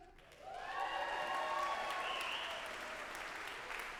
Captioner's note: audience applauding